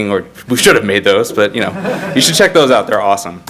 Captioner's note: audience laugh